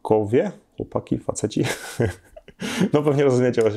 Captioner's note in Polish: śmiech